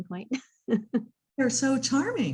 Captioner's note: laughs